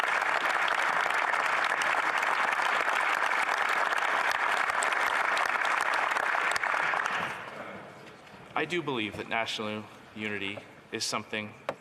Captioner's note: some Applause